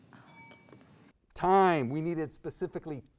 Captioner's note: ping